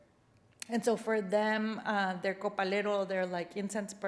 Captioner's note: spanish phrase